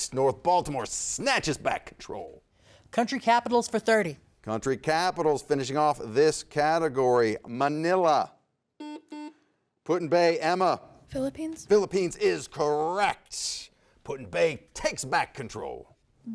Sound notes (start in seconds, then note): 8.8 buzzer sounds